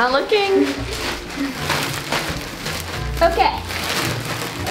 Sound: shuffling

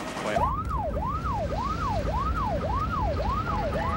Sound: siren

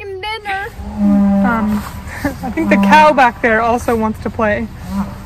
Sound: cow Mooing

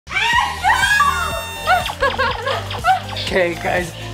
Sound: screaming

